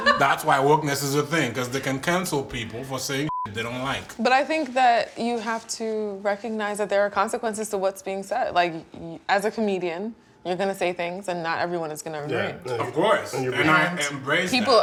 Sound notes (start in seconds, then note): 3.2 beep